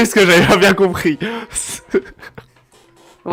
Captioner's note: laugh